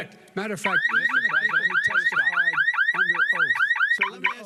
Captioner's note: siren